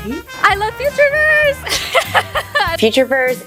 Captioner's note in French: rires